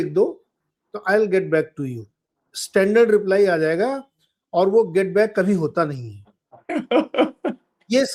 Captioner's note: laughter